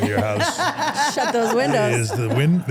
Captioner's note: everyone laughs